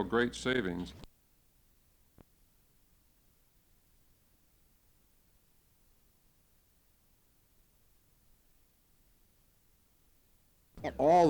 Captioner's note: silence